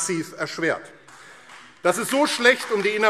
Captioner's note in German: Beifall AfD